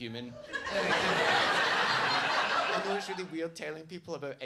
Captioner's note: audience laughs